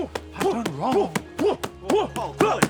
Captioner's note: grunting